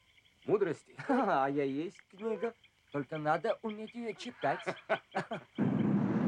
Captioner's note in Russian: смеются